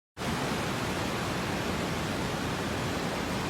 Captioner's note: waves rustling